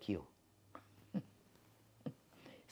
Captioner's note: laughing